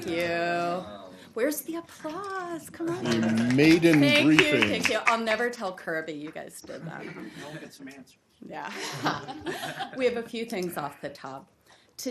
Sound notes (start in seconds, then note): 3.0 applause; 8.7 laughter